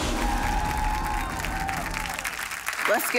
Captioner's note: audience cheering